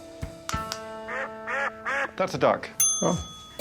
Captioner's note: duck quacks